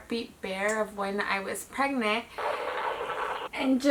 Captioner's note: heartbeat recording rumbles